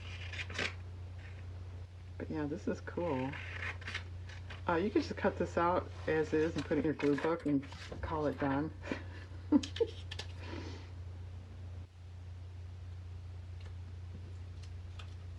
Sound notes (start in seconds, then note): 13.9 laughs